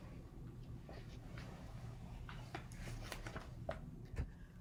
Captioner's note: paper rustling